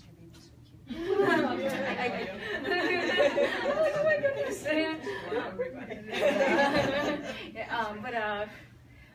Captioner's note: audience laughs